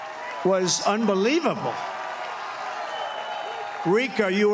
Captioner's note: applause